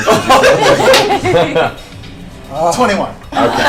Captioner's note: all laugh